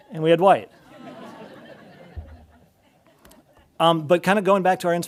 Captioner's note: audience laughing